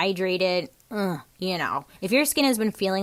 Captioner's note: groans